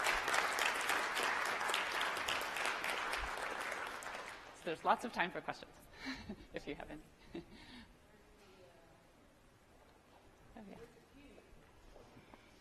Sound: applause

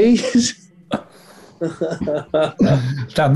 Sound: laughing

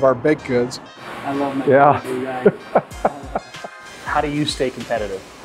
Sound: laughs

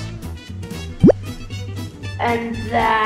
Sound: bloop noise

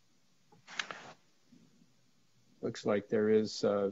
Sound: flipping pages

